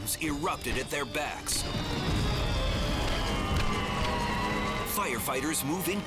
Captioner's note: fire roaring